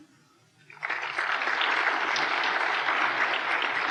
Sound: applause

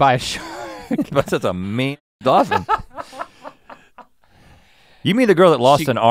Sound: Link laughing

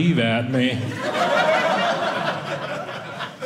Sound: audience laughing

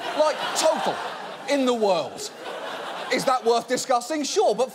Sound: audience laughing

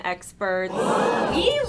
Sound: audience ahh's in shock

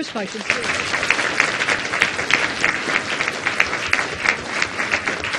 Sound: audience applauding

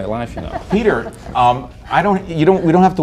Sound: laughter

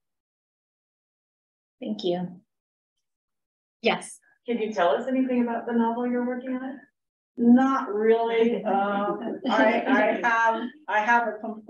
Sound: laughter

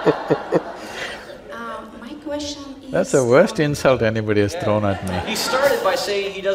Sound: laughter

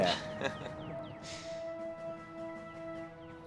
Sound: chuckling

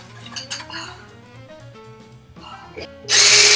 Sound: pants

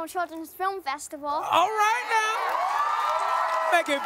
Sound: cheering, applause

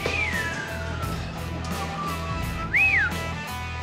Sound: whistling

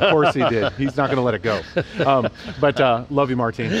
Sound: laughter

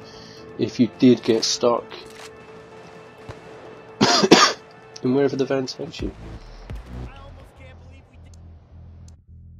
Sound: cough cough

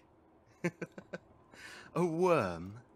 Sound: Lucius laughs

